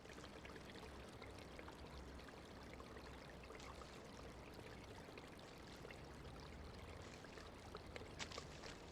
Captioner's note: water splashing